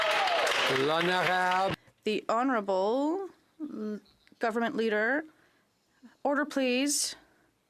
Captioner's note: some Applause